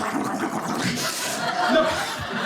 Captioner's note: audience laughing